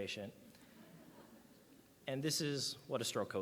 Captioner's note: audience laughs